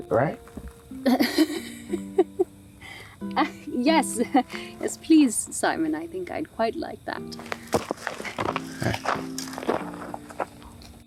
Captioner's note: laughter